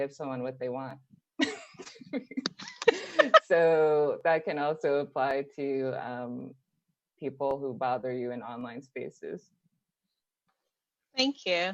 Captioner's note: laughter